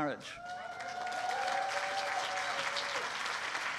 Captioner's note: cheering